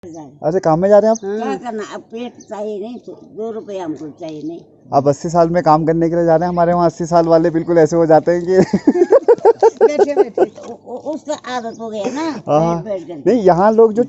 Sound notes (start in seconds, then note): 8.5 laughs